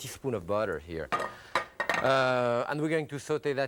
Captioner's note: skillet clatters